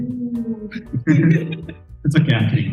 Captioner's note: laugh